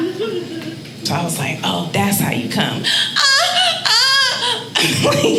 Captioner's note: audience laughing; moaning; all laughing